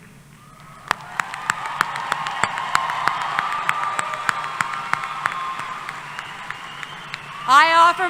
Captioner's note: applause